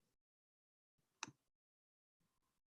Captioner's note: click